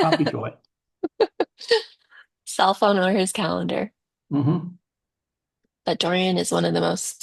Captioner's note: laughs